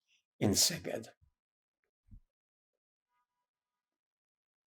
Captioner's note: pauses 8 seconds